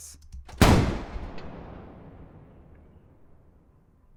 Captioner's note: gun fires